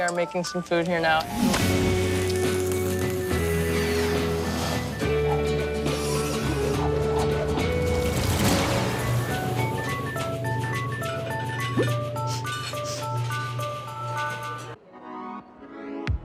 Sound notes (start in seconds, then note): 11.7 sniffs